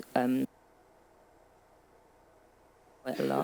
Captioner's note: audio cutting out